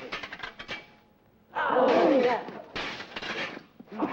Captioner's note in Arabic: صوت رنين الأسلحة; يصرخ الحشد; صوت رنين الأسلحة; يسمع صوت رنين الأسلحة